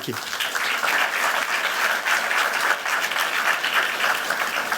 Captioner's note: applause